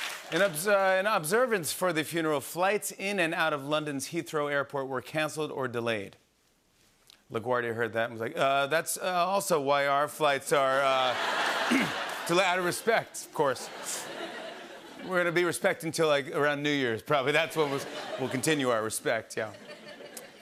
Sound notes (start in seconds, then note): 0.0 applause; 11.6 clears throat